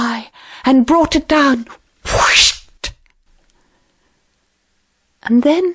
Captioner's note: whooshing sound